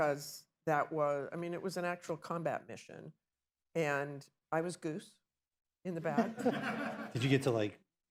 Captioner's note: laughter